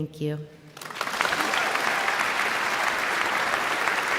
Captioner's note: all clapping